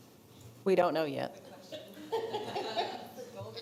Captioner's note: attendees laughing